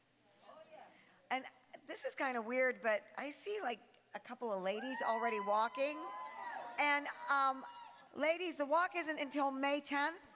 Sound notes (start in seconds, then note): 4.8 women cheering